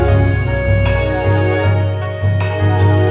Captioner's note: none